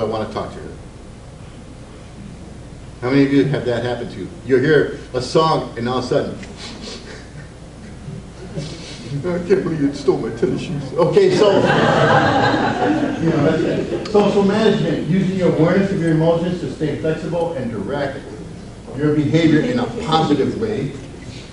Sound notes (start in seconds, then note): 6.5 sniffs; 11.3 audience laughs